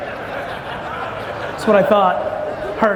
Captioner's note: audience laughs